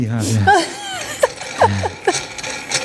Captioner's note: laughing